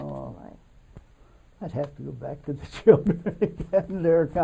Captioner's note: laughs